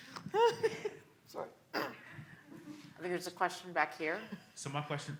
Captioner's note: laugh; cough